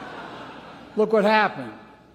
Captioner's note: laughter